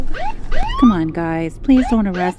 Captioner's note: sirens blaring